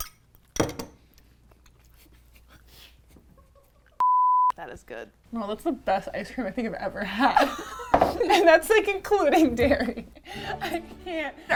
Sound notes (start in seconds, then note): 4.0 beep; 7.4 laughing; 10.3 triumphant music